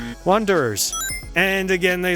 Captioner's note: WRONG buzzer sound; correct buzzer sound